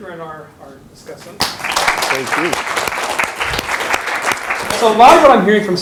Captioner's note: audience applauds